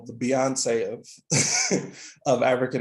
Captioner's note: laughing